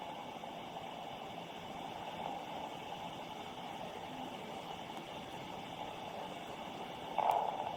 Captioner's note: electronic static